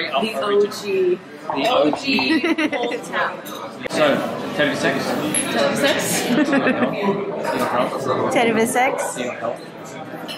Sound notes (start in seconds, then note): 4.6 Estonian; 6.6 laughing